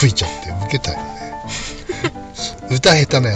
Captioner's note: laughs